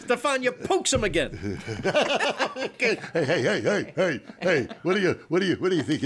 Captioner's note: laughs